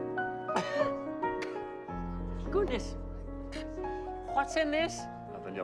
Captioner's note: coughing